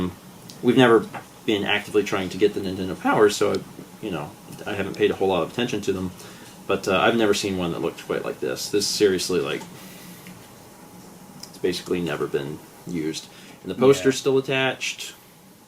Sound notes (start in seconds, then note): 9.8 exhales in amazement